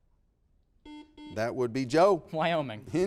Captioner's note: buzzer beeping